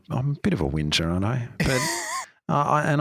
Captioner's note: chuckling